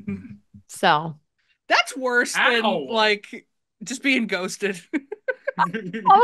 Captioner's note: laughs; laughs